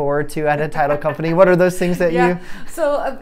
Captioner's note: laughing